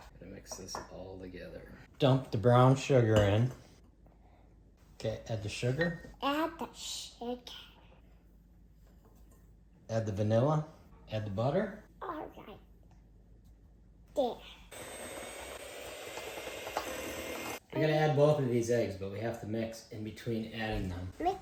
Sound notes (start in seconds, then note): 17.8 mixer noise